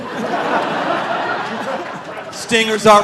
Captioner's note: audience laughing